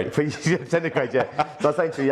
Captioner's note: laughs